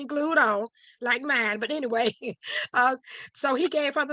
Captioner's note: chuckles